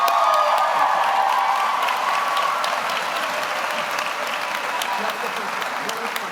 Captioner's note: audience applauds; audience cheers